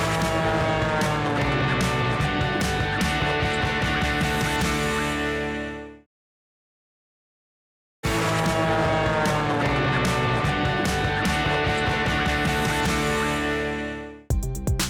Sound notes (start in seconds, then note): 0.0 rousing music; 0.0 plane engine buzzing; 8.1 rousing music; 8.2 plane engine buzzing